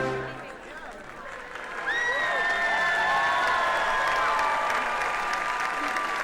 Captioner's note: attendees cheering and clapping